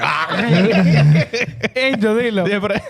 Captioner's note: laughing